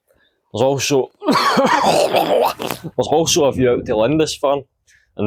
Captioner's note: coughs sharply